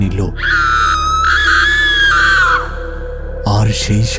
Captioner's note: ghost scream